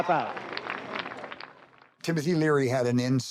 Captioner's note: clapping